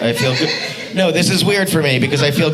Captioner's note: audience laughing